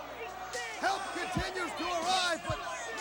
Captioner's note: crowd chatter